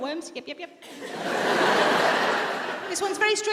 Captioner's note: audience laughs